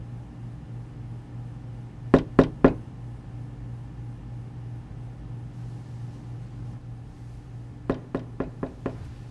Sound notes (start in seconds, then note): 2.1 knock on door; 7.8 hurried knocking